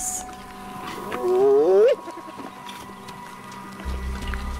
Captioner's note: Whining